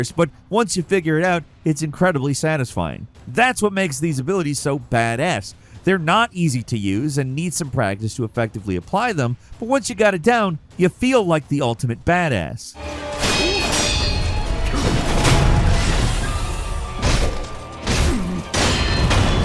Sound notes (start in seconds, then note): 12.7 tense dramatic music; 13.0 swords clanging